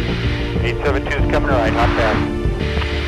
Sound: radio: 872 is coming right

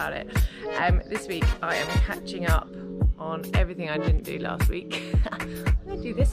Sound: laughs

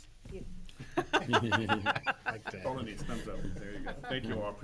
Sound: loud laughter

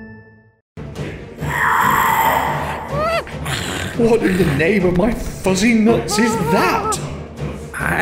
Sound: scene change music; ape noises

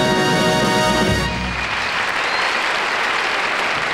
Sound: audience applauding

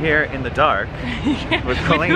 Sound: Colleen laughing

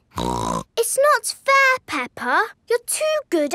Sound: snorts

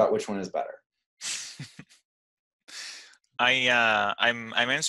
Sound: laughs

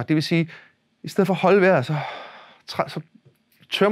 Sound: exhale

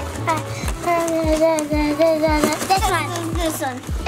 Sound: vocalizing

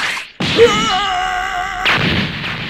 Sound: UDO roars; UDO screams

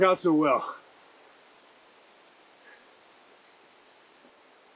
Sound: rain trickling in distance

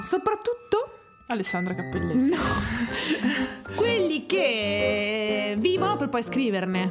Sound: laughing

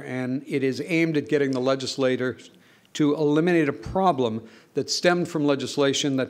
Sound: none

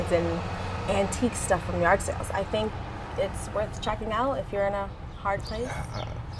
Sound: none

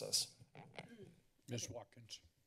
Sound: microphone rustling

